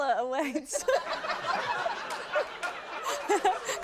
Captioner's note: laughter